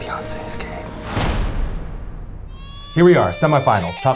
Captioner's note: metal thudding